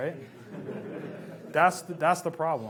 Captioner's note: laughs